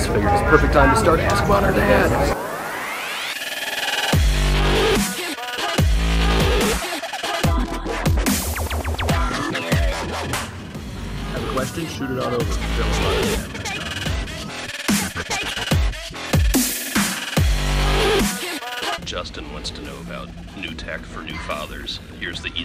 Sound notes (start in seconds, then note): 1.9 whooshing; 3.9 energetic electronic music; 14.8 energetic electronic music